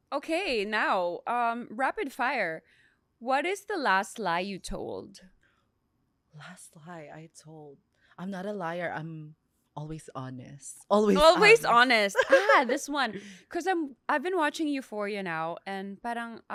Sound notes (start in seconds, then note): 10.7 laughs